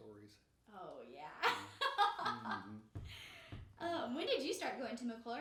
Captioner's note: laughing